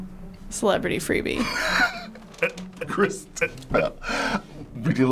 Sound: laughing

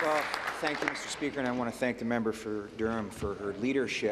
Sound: applause

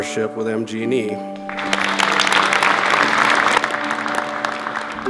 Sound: audience applauding

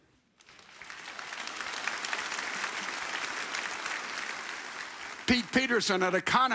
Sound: audience applauds

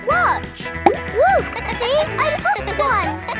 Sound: kids laughing

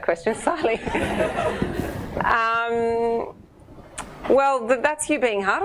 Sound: audience laughing

